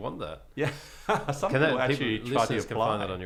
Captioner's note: laughing